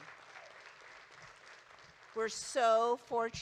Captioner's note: audience applauding